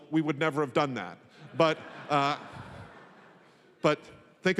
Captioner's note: laughter